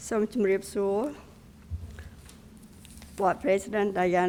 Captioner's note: speaking in a foreign language